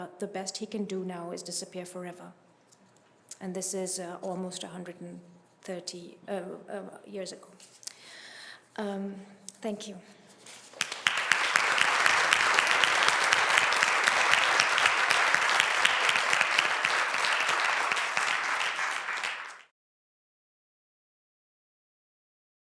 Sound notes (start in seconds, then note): 10.7 clapping